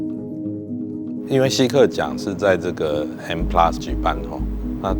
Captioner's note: Mandarin